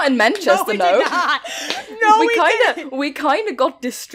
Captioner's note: laughing